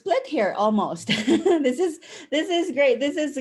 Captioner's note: chuckle